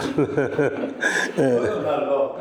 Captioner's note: laughing